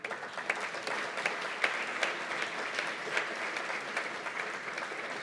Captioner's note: applause